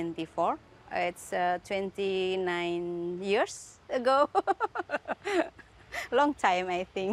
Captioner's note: laughs